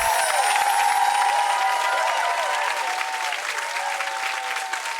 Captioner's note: sparkling sound; audience clapping and cheering